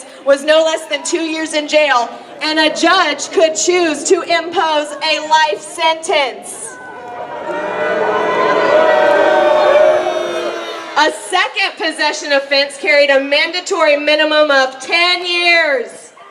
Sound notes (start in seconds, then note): 6.4 crowd booing